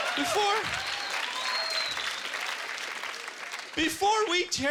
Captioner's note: laughter and applause